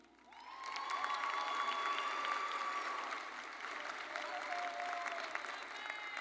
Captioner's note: audience cheering and applauding